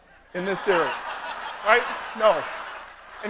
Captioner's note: laughter